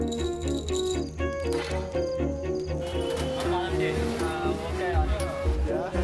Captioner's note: man speaking native language